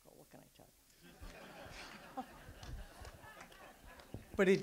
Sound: audience laughs

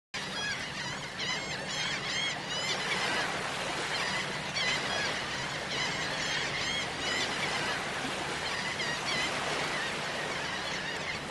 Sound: seagulls Cawing

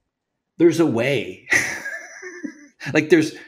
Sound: laughs

